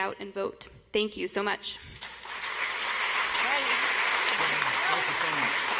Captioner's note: audience applauds